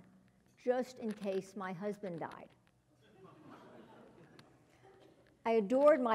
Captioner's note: laugh